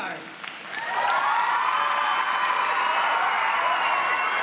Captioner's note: crowd cheering